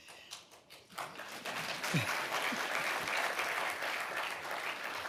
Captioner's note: audience applauding